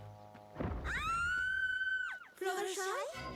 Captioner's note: scream